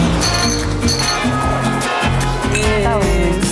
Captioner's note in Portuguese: veículo acelerando; tilintar de garrafas; buzinas